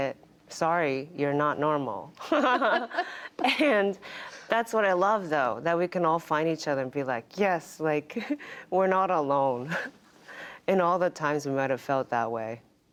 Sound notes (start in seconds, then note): 2.2 laughter